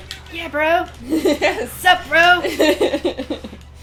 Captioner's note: laughing